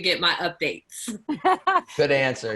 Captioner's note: chuckle